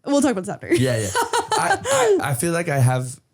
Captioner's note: laughing